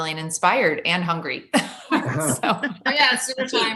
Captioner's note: laughs